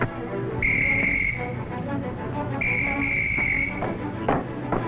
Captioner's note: whistle blowing